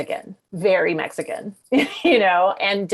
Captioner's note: chuckles